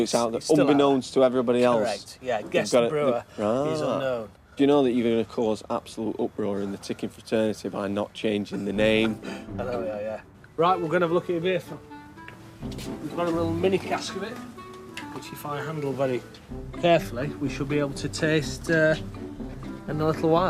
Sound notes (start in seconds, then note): 8.6 laughs